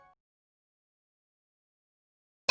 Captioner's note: silence